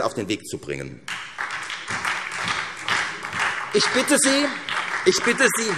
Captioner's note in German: Beifall